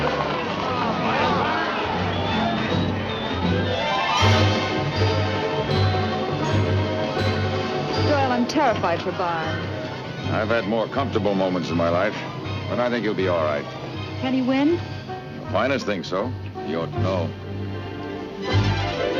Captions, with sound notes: (crowd cheering) It's a race! Doyle, I'm terrified fo.